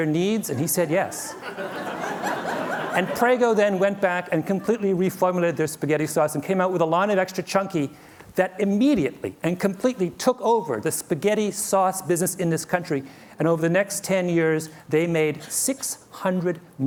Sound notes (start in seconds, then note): 1.1 laughter